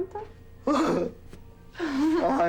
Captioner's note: laughs